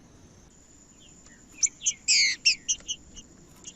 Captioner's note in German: trinca ferro cantando